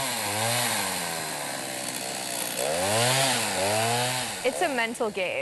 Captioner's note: chainsaw buzzing